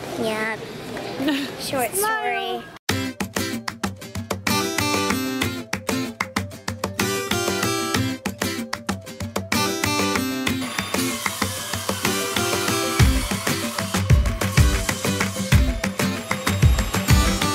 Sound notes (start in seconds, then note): 3.2 cheerful music; 10.3 loud sawing